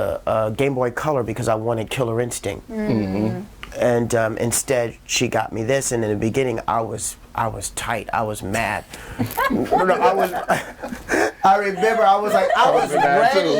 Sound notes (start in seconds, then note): 9.2 all laughing